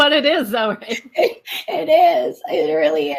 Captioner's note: laughs